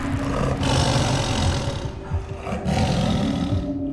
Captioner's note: tiger growling